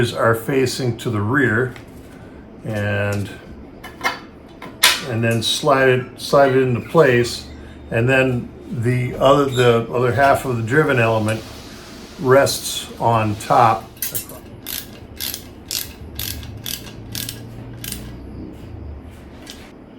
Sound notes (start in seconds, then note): 14.6 ratcheting